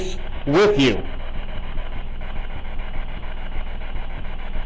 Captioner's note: static buzzing